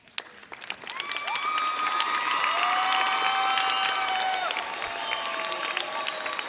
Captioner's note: graduates and audience cheering loudly